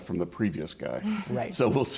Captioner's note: laughter